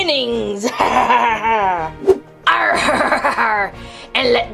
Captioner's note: laughs